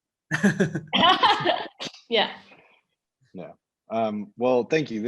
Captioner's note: all laughing